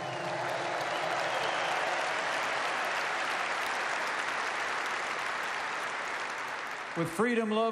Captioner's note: applause